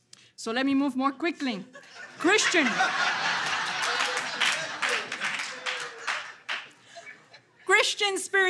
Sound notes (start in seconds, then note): 1.8 audience laughter